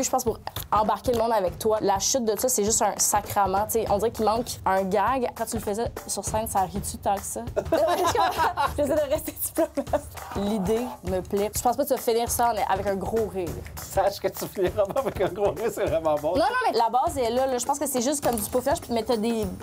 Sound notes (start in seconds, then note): 7.6 laughs